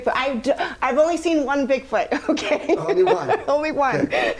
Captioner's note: laughing